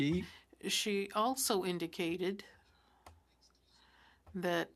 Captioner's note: speaking French